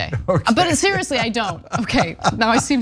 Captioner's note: laugh